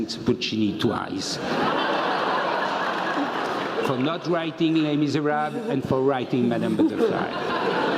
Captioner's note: laugh